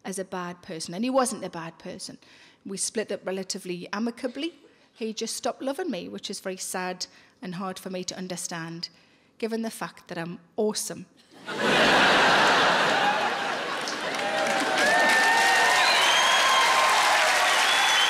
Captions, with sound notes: as a bad person and he wasn't a bad person. We split up relatively amicably. He just stopped loving me which is very sad and hard for me to understand, given the fact that I'm awesome. (laughing) (audience applauding)